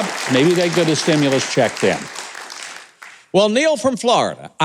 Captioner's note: audience applauding